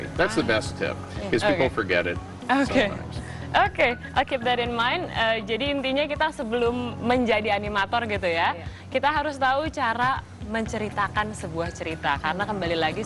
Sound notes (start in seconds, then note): 5.5 non-english speech